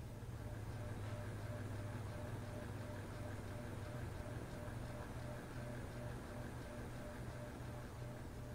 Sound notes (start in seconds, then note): 0.0 fan droning